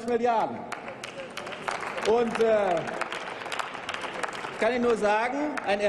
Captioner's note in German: Applaus